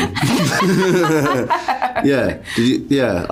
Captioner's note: laughter